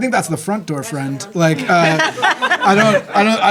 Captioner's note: laughing